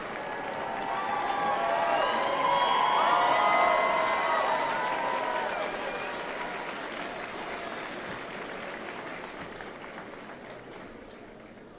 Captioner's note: applause